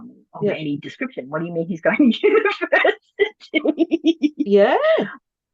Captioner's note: laughs